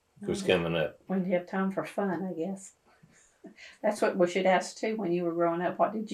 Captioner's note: laughs